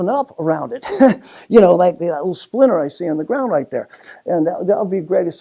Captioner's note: laugh